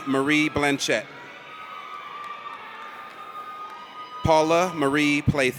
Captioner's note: audience cheers